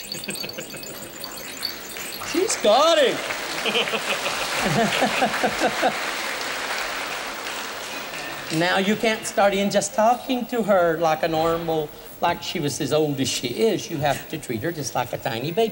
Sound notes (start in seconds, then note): 0.0 laughter; 1.4 applause; 3.3 boisterous laughter; 6.8 laughter